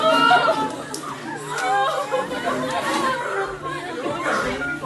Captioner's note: students crying